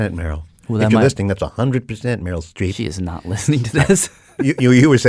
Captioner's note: laughs